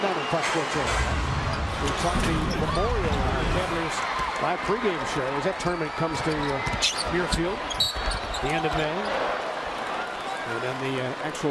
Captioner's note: crowd noise